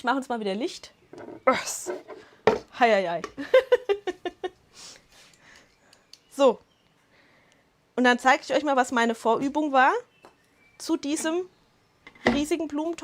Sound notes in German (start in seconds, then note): 3.4 Lachen